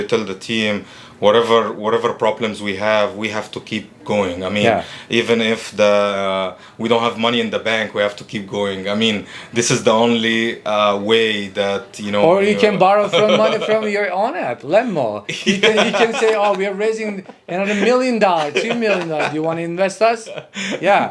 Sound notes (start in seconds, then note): 15.3 laughing